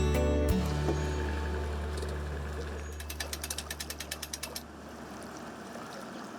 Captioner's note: engine whirring; gentle music fading